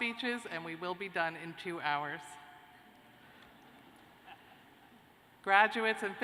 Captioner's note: laughter